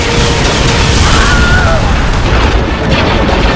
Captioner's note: wilhelm_scream.mp3